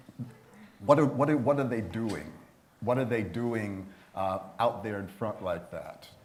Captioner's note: laughter